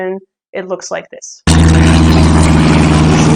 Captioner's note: drone sounds